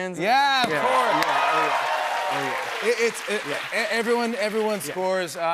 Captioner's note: cheers and applause